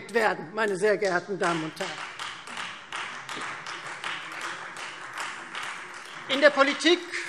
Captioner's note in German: Beifall Freie Demokraten